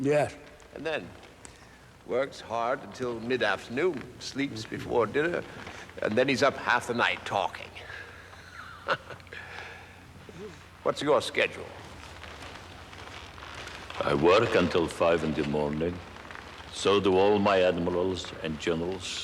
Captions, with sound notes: Yes. And then works hard until mid-afternoon. Sleeps before dinner. And then he's up half the night talking. (laughing) What's your schedule? I work until five in the morning. So do all my admirals and general.